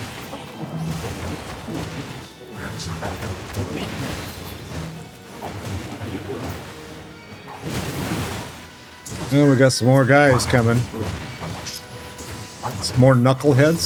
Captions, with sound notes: [humming] Well, we got some more guys coming. Some more Knuckleheads.